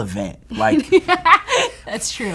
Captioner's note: laughing